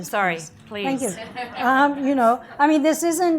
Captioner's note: audience laughs